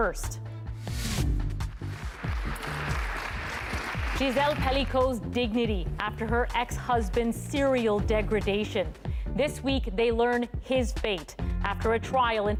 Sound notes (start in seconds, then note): 3.6 applause